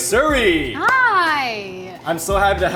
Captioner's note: claps hands